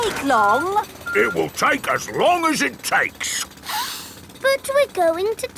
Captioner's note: sniffs